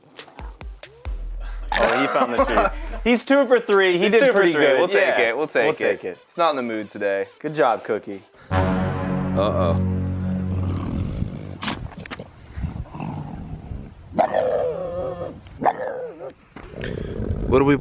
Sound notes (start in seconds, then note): 2.9 laughs; 11.4 Cookie growls